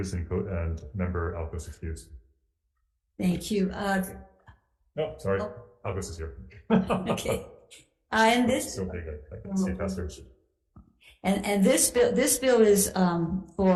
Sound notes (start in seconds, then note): 6.6 laughs